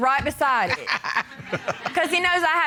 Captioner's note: both chuckle